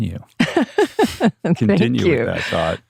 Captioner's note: laughing